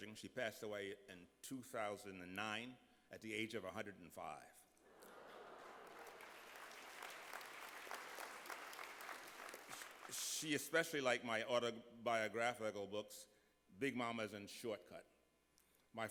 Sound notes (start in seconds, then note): 7.1 applause